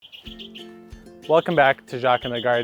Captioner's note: birds chirping